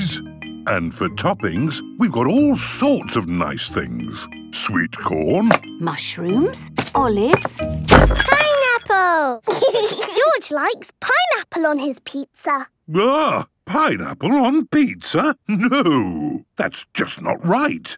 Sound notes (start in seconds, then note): 7.3 bangs; 9.4 laughs